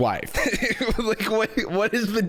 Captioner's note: laughs